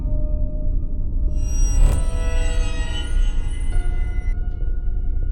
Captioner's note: creepy buzzing; high pitched buzzing